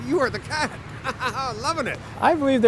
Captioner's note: laughter